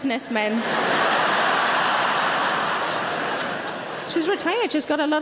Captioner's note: audience laughing